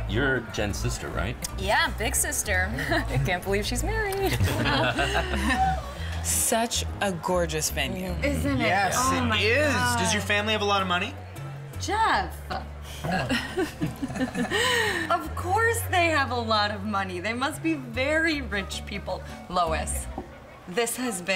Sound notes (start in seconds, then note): 4.1 laughing; 13.1 forced laughter